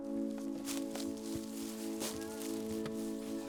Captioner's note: paper shuffling; low tone music